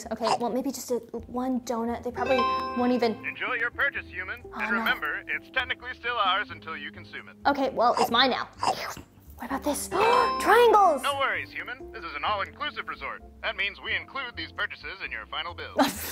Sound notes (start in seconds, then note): 3.4 male Voice; 11.3 male Voice